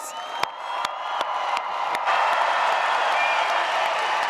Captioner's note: audience cheers